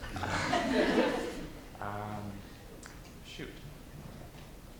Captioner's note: audience laughs